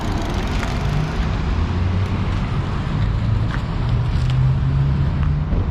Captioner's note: car engine roaring